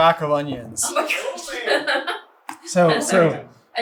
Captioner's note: laughing